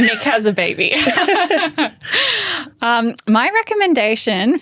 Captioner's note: both laughing